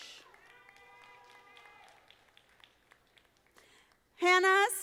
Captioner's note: audience applauding